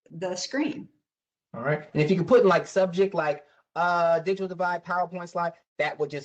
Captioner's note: professor speaking